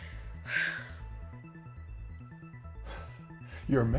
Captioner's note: Carlotta sighs